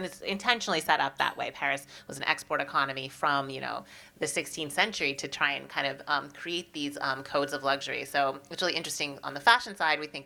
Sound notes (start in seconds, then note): none